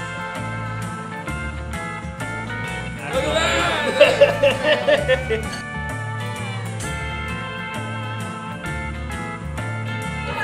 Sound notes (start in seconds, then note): 5.7 laughter